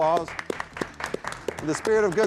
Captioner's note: audience applauding